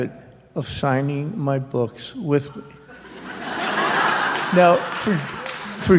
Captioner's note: laughter